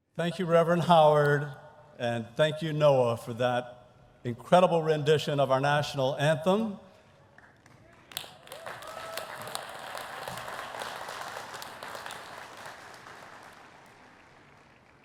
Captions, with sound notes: - Thank you, Reverend Howard. And thank you, Noah, for that incredible rendition of our national anthem. (audience applauding)